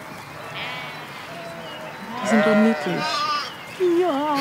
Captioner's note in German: Hohes Blöken; Sie kichert